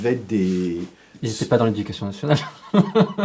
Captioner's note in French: rires